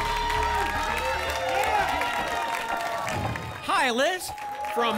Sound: applause and cheering

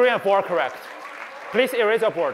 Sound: applause

